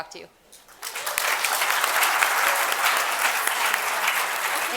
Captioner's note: applause